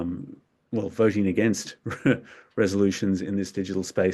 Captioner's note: chuckles